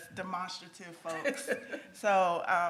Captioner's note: laughs